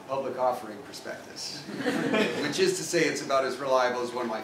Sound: laugh

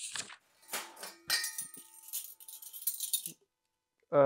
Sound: cutlery clanging, jingling

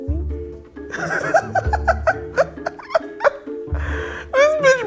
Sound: laughing

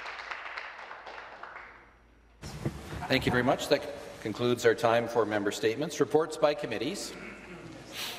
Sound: some Applause

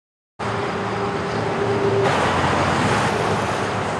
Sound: traffic roars

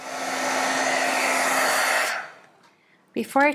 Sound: fan whirring

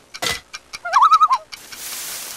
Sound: loon call

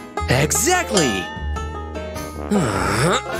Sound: groans

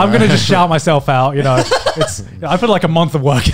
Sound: laughs

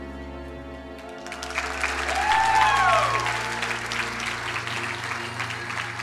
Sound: crowd cheering and applauding

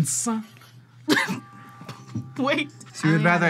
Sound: laughs

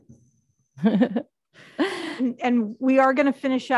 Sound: chuckles

